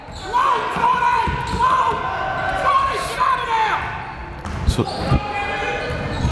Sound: crowds yelling

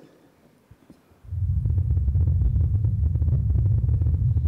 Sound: wind

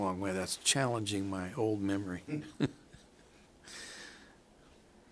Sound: chuckles

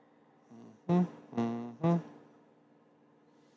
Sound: humming

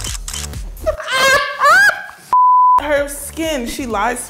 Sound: laughter

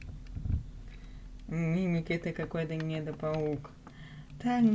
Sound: sighs

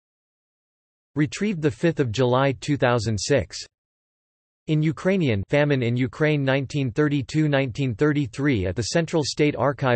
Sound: in Ukrainian

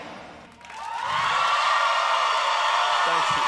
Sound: cheering

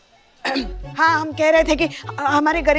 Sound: clear throat

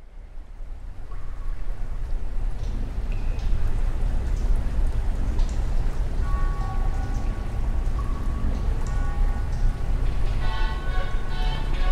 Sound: damp sewer ambience

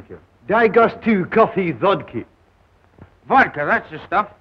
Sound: speaking russian

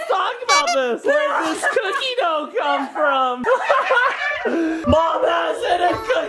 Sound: laughs

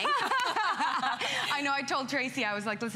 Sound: laughter

